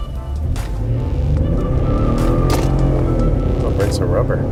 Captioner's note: engine revs, tires squeal